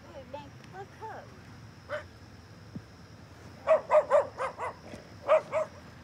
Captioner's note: dog barking